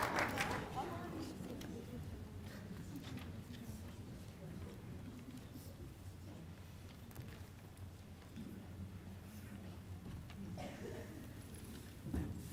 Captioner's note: applause